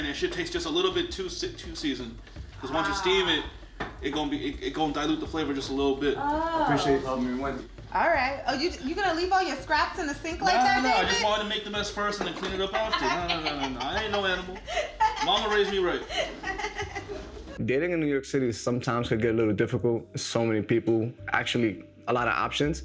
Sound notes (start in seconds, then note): 12.7 laughing